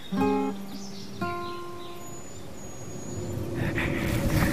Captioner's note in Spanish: Canto de pájaros